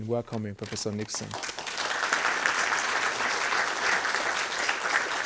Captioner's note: everybody applauds